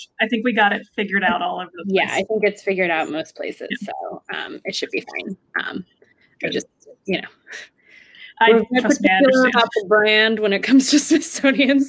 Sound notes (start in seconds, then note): 8.3 chatter